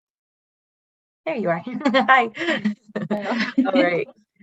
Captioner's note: laughs